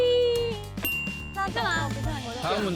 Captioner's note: ding